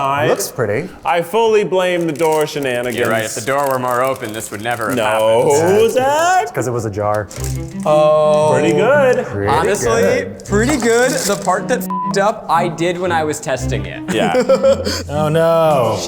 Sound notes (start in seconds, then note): 11.8 beep